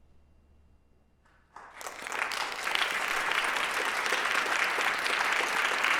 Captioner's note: applause